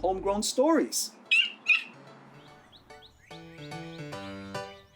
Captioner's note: Spike yips